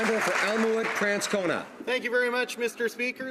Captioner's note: some Applause